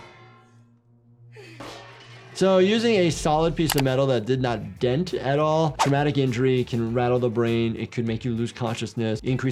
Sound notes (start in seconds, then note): 1.5 bedpan clattering